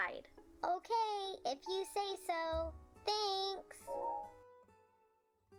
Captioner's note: digital sound effect